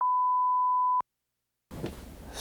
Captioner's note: SMPTE tone